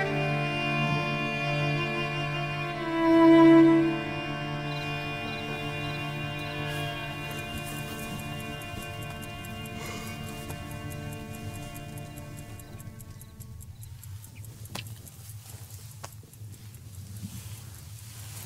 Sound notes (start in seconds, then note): 9.8 sighs; 13.2 birds chirping; 16.4 footsteps